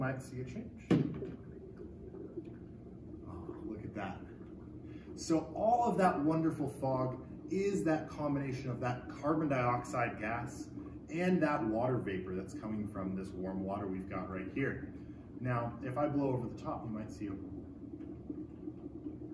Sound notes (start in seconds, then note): 1.3 bubbling